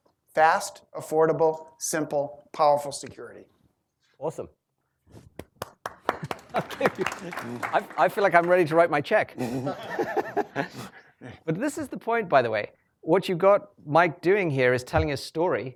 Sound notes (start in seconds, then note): 5.4 applause; 6.6 chuckles